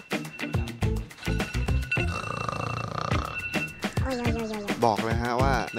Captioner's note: iPhone alarm